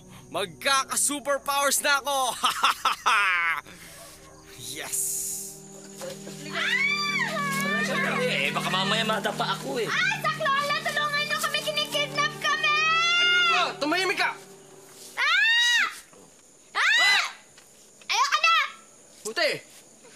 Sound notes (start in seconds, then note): 2.3 laughs; 6.4 Bunny screaming, crying; 15.0 screams